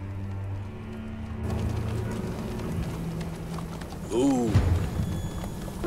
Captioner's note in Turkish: At ayak sesleri